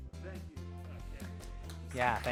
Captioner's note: clapping